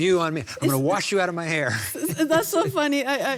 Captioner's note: laughs